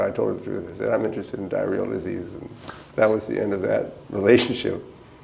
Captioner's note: smacks hands